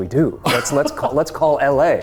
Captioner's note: laughing